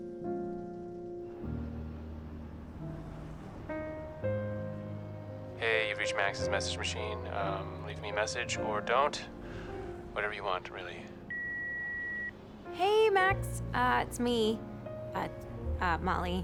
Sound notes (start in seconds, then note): 11.3 line beeps